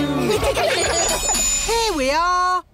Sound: laughter

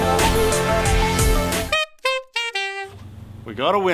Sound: blows through alloy, making trumpet sounds

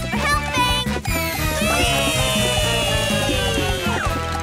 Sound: cheering

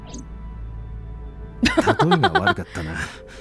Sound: chuckles

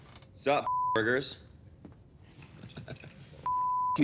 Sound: beep

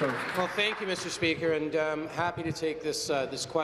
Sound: applause

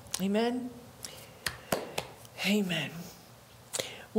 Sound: hands clapping

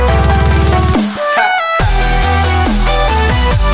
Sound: echoing

